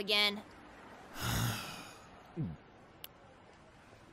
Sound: sighs then drinks

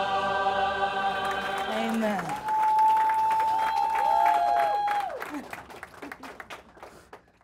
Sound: congregation cheering; congregation applauding

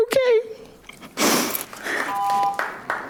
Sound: audience applauding

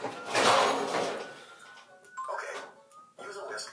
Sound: cooking ware banging

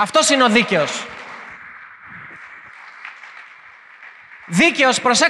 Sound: applause

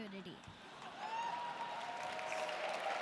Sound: cheers

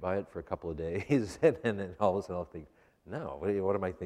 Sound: laughs

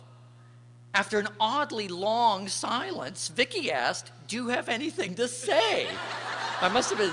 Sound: laughter

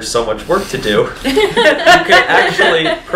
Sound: laughs

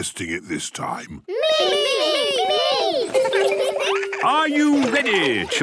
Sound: laughter

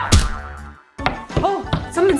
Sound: knocking on door

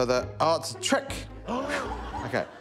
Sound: gasps

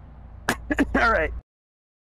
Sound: nervous cough

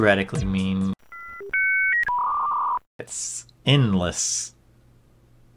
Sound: dial-up modem sounds

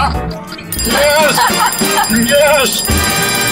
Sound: clock timer ringing

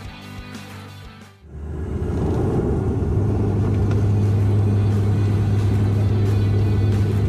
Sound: aircraft engine

